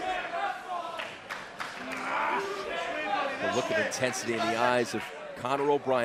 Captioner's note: crowd cheering